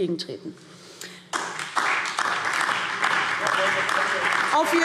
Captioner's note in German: Beifall DIE LINKE, BÜNDNIS 90/DIE GRÜNEN und SPD